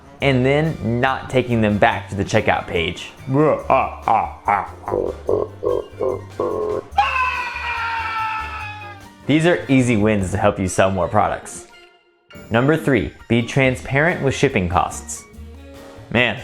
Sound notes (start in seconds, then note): 3.5 laughing maniacally; 6.9 screaming